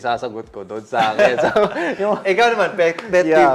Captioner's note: laughs